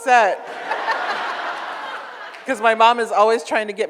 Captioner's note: audience laughs